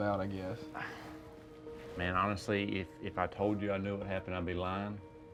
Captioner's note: sighs